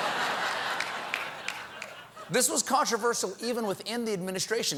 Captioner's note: laughter